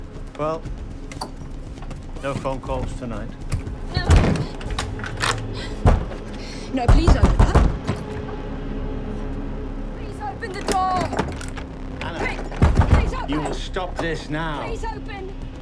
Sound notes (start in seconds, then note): 3.4 lock turns; 7.3 ominous music building